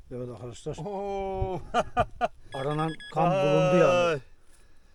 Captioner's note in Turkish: kahkaha